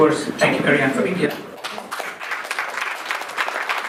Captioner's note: applause